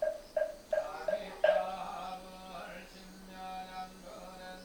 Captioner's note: chanting